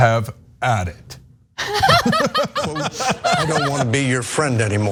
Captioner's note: laugh